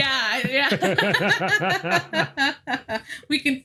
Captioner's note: both laughing